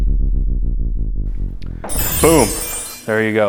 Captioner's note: deep pulsating music; griller chimming